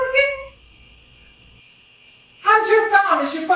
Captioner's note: crickets